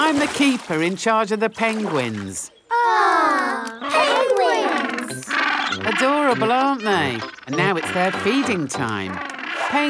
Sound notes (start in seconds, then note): 3.6 penguins chatter